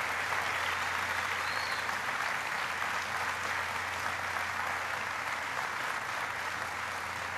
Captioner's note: applause